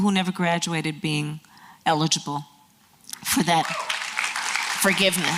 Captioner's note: applause